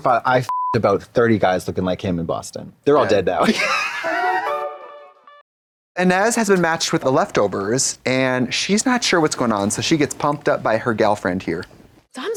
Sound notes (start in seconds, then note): 3.4 blonde Women chortle; 4.0 pleasant music